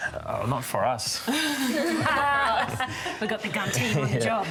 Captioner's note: laughter